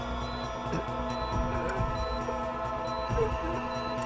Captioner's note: Bix groaning